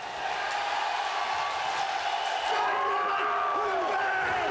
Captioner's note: crowd cheers